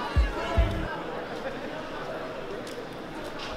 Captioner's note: chatter